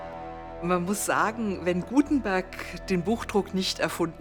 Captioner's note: speaking German